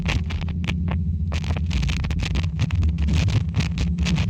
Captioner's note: tuning static continues